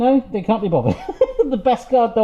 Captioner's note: laughs